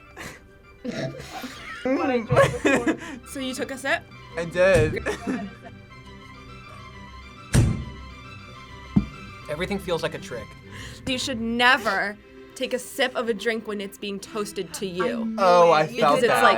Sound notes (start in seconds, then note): 0.8 laughs; 0.8 both laugh; 5.0 laughs